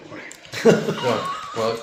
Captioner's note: laughing